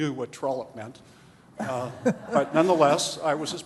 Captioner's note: laughter